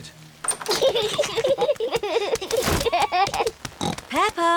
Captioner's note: both giggling; oinks